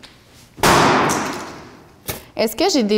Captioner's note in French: bang!